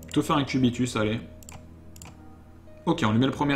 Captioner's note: mouse clicking